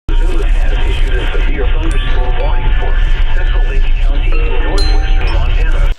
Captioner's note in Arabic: راديو